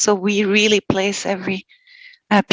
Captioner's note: non-english speech